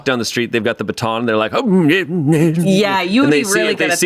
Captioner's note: grumbles